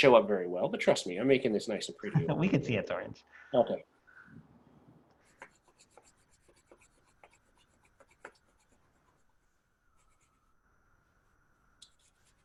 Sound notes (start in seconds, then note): 9.3 long pause